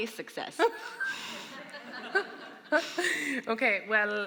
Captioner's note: audience laughing